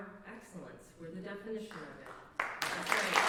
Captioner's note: applause